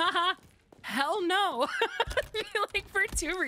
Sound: laughter

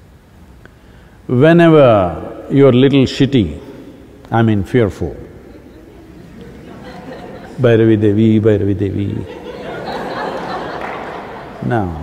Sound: laughter

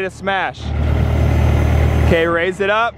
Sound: hydraulic mechanical sounds

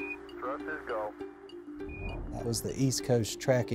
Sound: NASA Recording

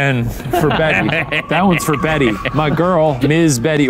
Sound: laughs

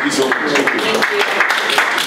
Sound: audience applauds

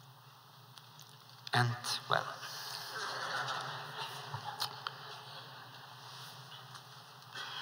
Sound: laughter

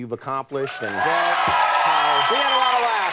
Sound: crowd cheering

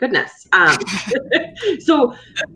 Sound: laughs

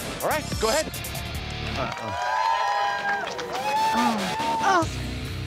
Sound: crowd cheers

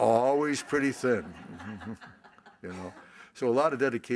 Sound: laughter

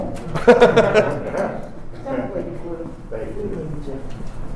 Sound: laughter

